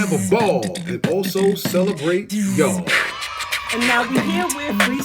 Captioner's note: comic cheering